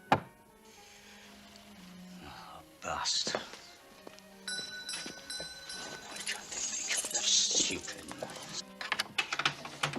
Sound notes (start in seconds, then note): 4.4 bell rings